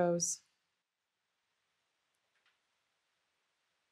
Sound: silence

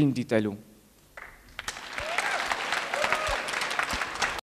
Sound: applause

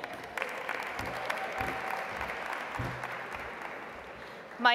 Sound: audience applauds

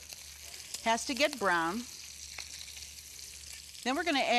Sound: bacon sizzling

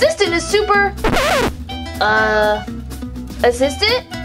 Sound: noise signal

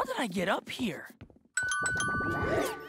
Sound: phone rings

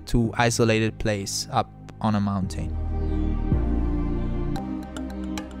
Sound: voiceover

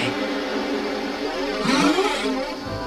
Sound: distorted

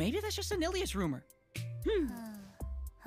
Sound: Mia sighs

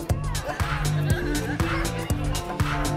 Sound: laugh; laughs

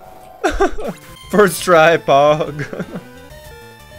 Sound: laughs

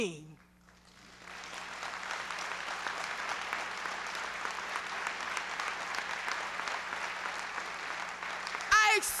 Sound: applause

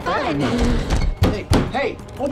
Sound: pounds on door

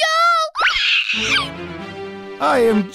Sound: elated squeal

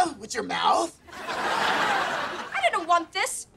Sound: laughing

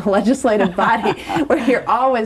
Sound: both laugh

